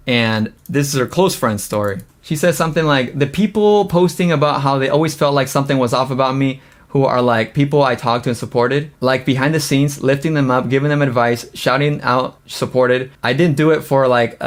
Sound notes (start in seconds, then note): none